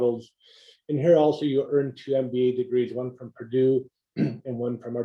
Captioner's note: cough